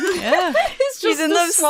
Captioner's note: laughs